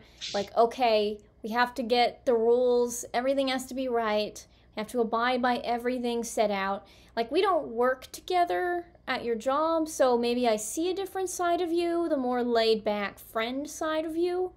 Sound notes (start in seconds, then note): none